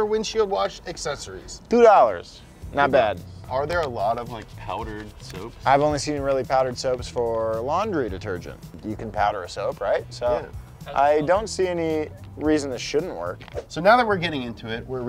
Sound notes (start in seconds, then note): none